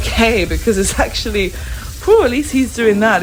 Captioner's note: sighs